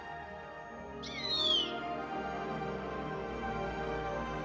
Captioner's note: bird cawing; inspiring music swells